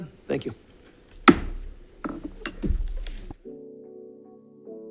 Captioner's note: gavel bangs; calm music